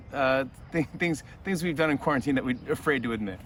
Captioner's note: chuckling